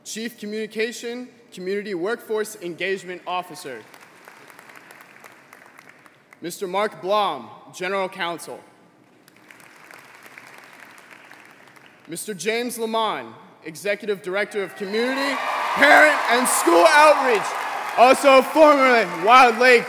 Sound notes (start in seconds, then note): 12.5 applause